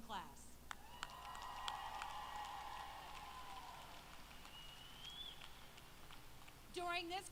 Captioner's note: applause